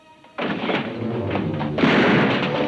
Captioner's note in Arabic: طرقات الباب; أصوات البنادق